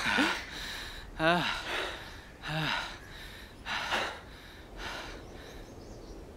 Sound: heavy breathing and sighs

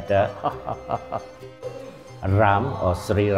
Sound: man laughing

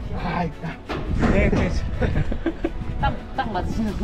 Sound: laughing

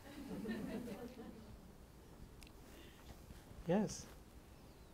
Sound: attendees laugh

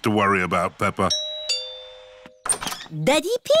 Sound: doorbell rings

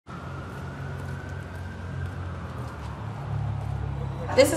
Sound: sirens

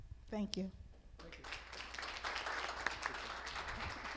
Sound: applause

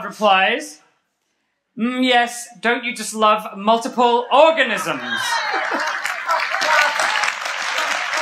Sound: applause and laughter

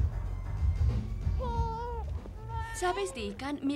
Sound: baby crying

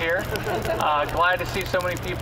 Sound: audience laughing

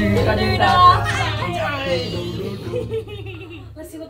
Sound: laughing; everyone laughing

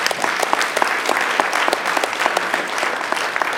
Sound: clapping

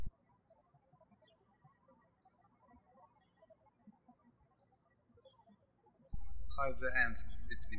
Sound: birds chirping

